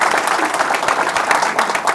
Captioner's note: applause